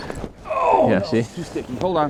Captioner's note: groans